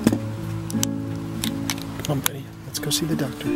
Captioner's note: seat belt unbuckles